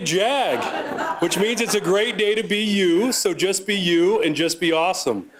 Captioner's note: laughter